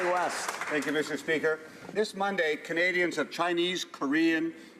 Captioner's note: applause